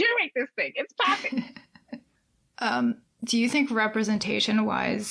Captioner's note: laughs